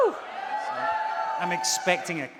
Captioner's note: audience cheering